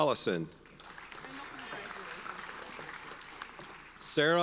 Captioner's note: audience applauds